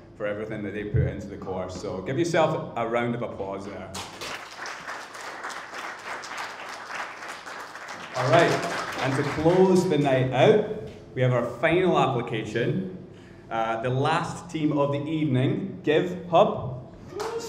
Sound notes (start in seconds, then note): 3.9 crowd applauding